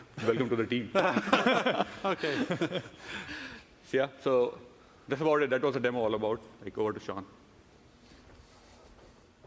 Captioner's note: laughing